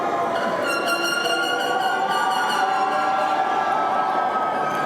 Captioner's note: air horn honking